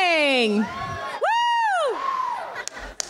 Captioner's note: cheers